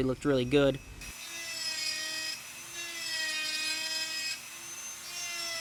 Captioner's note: buzzing and whirring